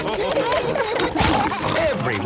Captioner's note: splashing